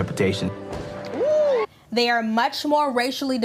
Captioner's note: someone oohing